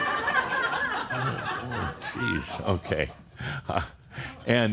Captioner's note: laughter